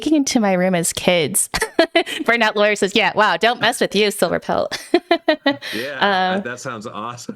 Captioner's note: laughing